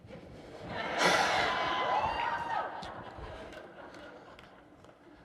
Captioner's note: laughter and cheering